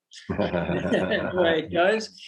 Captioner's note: both laugh